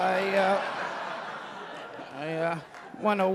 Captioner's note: audience laughing